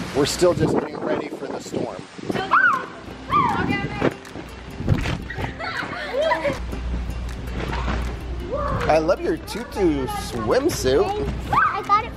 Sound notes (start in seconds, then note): 5.2 kids laughing